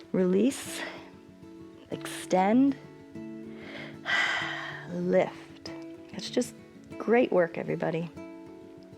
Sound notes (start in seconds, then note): 3.4 exhales